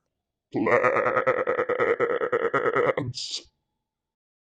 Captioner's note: alien Voice